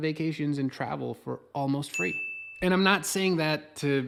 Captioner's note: alert bell dings